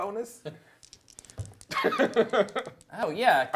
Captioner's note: giggling